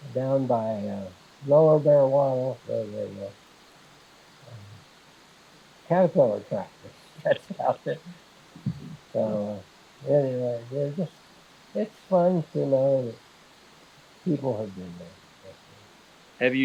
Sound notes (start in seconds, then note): 7.2 laughing